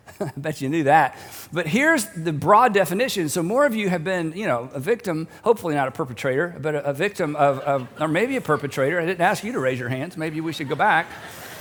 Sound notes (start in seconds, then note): 0.1 chuckles; 7.2 audience chuckling; 10.1 laughter